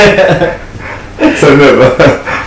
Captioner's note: laughing